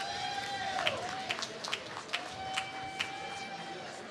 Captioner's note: applause